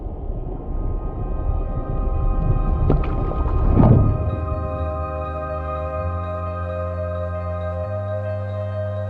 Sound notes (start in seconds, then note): 2.7 gurgling sound